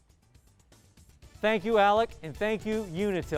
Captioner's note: none